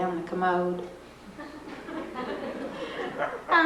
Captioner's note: laughter